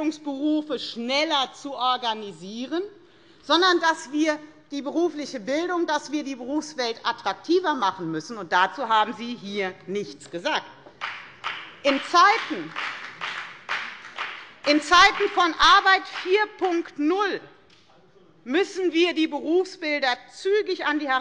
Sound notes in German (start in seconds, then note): 10.9 Beifall bei der FDP